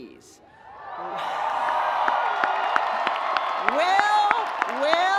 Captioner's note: audience cheering